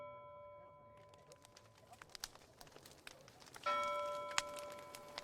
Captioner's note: bell tolls; crackling fire and bell